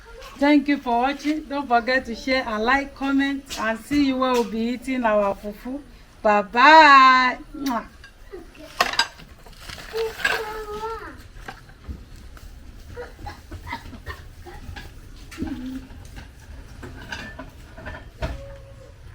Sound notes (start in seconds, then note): 7.6 kisses